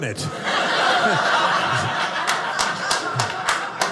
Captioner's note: audience laughing